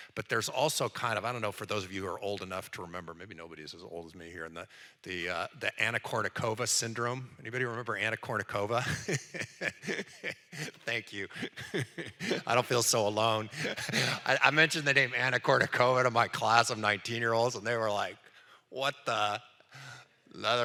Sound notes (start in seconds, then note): 8.8 laughs